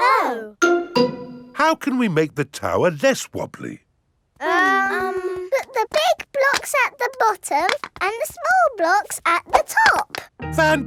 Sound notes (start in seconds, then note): 4.4 children hesitating